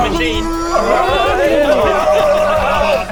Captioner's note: brrrrrrrrrrrrrrrrrrrrrrrrrrrrrrrrrr!